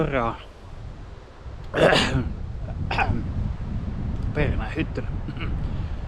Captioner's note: coughs